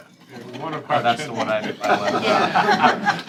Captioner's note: laughter